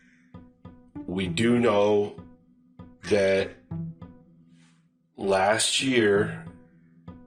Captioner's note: man speaking very slowly